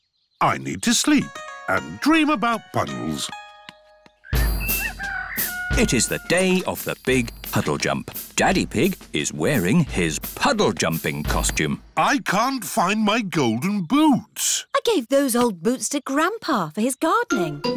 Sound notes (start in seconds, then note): 4.3 rooster crowing